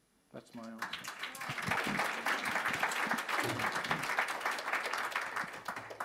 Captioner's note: audience applauds